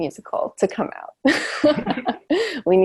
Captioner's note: laughs